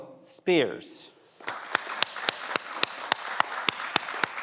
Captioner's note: everyone applauds